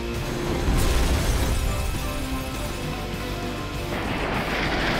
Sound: explosion booming

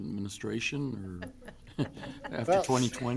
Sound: people laughing

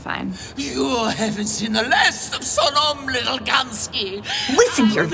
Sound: Madame Sonnom continues to yell out in defeated despair

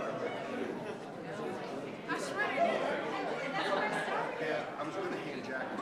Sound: people chattering indistinctly

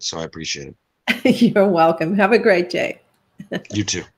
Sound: chuckles

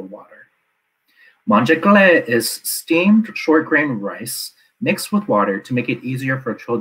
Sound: non-English speech

